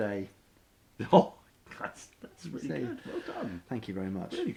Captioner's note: chuckles